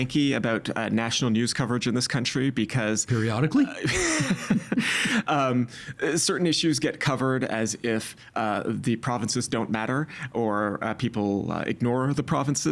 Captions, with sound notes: about national news coverage in this country because-- Periodically? (Both laughing) Um... certain issues get covered as if the provinces don't matter or people ignore the provinces.